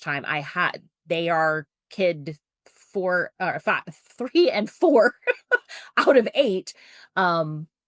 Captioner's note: laughs